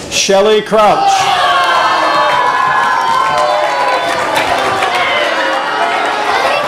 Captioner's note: audience applause